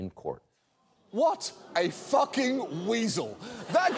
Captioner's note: audience groans, laughs